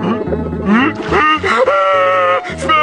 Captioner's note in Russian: начинает плакать; плач